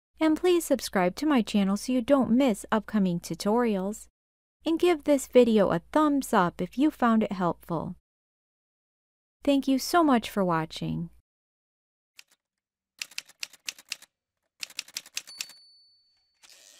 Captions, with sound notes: And please subscribe to my channel so you don’t miss upcoming tutorials. And give this video a thumbs-up if you found it helpful. Thank you so much for watching! [Typewriter sounds]